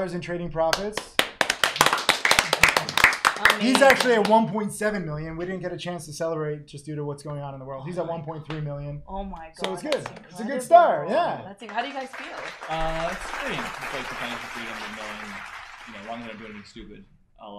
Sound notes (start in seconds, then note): 0.9 all applauding; 11.6 audience clapping